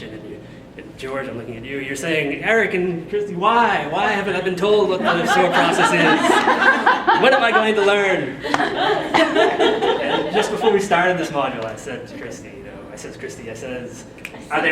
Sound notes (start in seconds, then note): 8.2 audience laughing